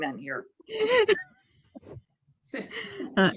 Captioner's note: laughs